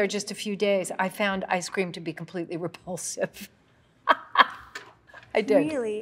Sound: laughing

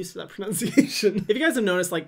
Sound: laughs

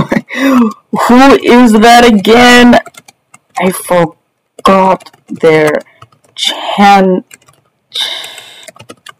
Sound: typing

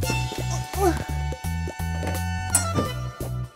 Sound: struggling

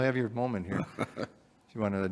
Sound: chuckling

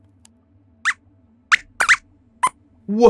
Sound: squeaks squeaks

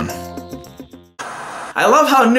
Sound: TV static

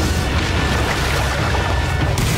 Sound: he shouts; water gurgles; flashing and roaring

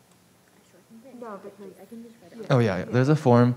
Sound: students chattering faintly

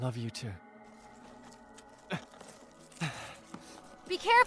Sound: grunts

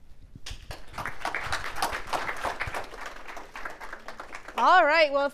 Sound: audience clapping

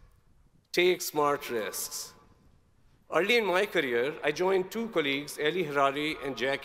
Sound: none

